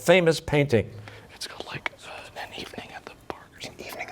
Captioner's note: whispering